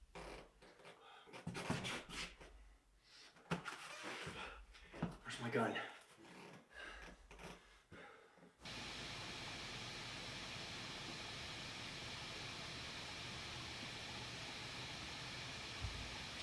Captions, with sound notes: Where's my gun? (static hissing)